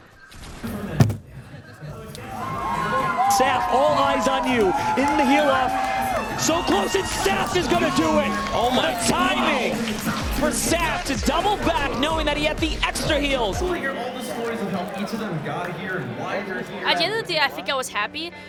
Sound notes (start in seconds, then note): 0.7 crowd cheers; 0.7 desk thuds